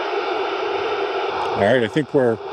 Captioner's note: engine revving